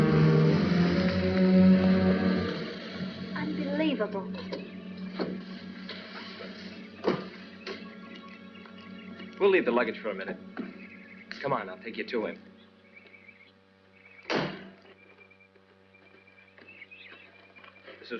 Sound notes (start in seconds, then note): 0.2 car drives up; 5.1 car door opens and closes; 14.3 door closes; 15.8 footsteps